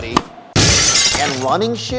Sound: glass smashing

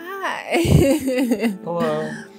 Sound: laughes

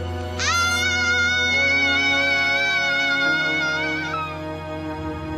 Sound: screaming

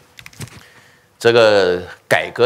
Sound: speaking chinese

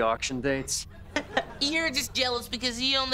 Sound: chuckles

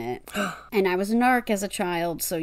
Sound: gasp

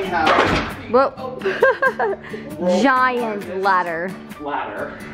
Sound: laughs

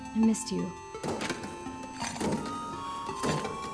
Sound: armor clanking

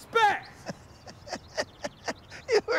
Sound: laughing

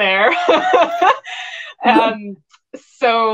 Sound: women laugh

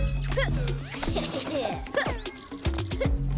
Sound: evil chuckling

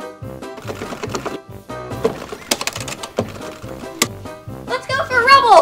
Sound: upbeat music; button clicking; joystick clicking

